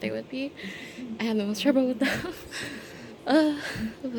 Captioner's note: out of breath